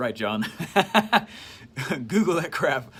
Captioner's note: chuckles